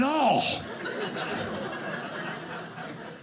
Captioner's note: audience laughing